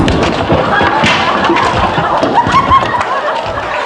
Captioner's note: body crashing; easel tumbling; crowd laughing